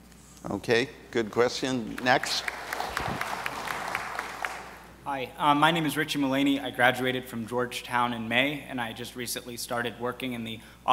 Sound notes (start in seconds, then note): 1.9 audience applauds